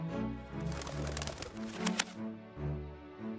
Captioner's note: wings beating